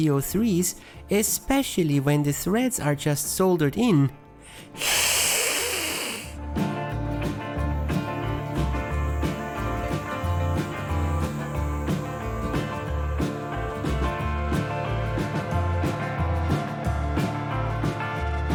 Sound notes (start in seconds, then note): 9.7 hissss!!!